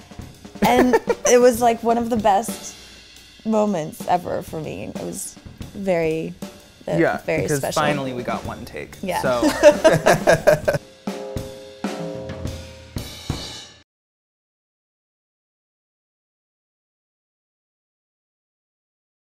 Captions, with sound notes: [Dan laughs] It was, like, one of the best moments ever for me It was very special - Yeah, because finally we got one take, so... - Yeah [laughter]